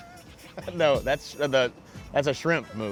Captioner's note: laughter